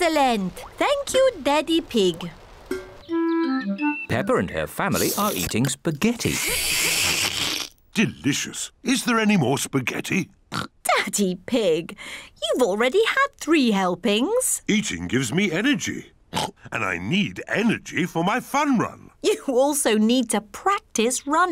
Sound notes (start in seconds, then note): 6.0 slurps; 10.5 oinks; 16.3 oinks